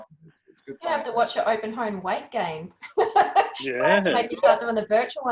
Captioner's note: laughs